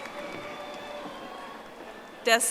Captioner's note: audience applauding